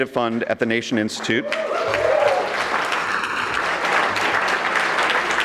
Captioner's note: audience clapping